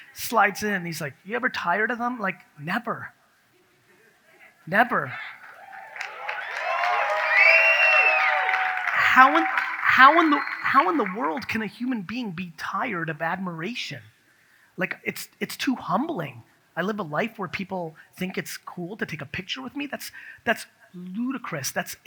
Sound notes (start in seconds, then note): 5.3 audience cheers